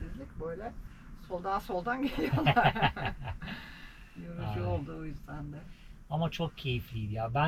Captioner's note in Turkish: kahkaha